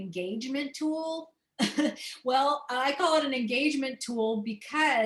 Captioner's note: laughter